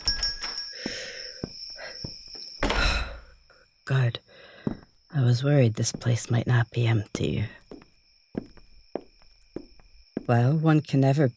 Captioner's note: entry bell chimes